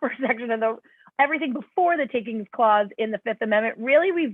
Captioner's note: laughter